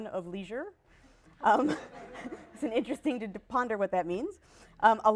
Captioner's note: laughter